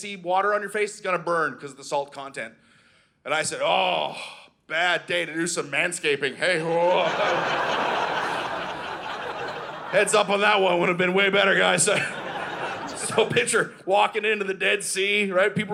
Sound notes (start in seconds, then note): 6.6 audience laughing